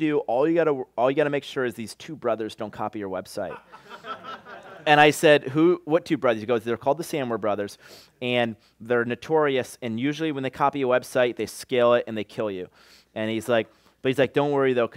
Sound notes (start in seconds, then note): 3.4 laughter